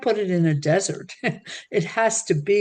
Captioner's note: laughing